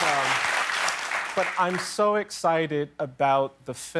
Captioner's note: cheers and applause